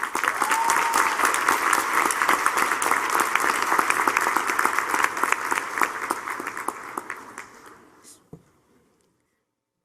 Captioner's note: applause